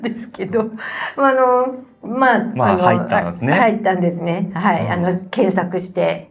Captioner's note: laughs